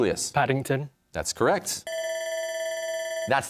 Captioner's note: bell rings